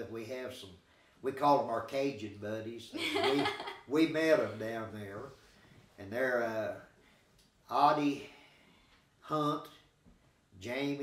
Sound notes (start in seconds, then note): 2.9 chuckling